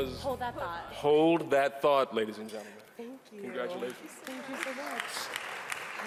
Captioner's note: cheering and applauding